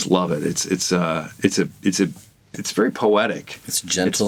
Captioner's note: stammering